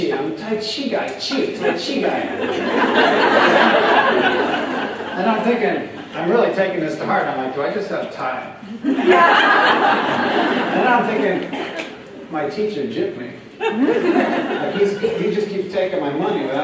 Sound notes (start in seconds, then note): 4.1 laughter; 8.7 laughter